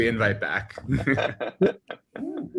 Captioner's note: laughter